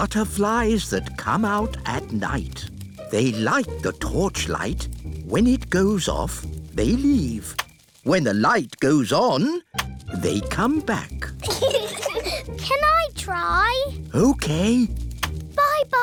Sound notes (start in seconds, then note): 11.4 peppa and george giggle